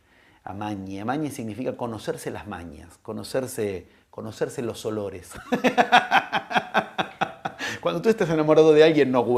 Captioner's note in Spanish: risas